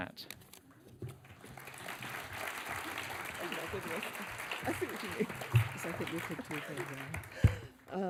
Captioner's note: applause